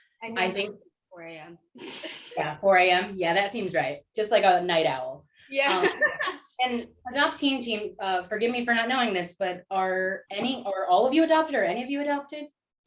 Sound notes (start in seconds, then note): 5.6 laughter